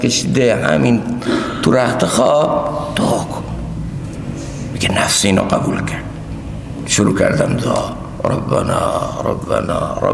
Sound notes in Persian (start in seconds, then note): 1.2 گلویش را صاف می‌کند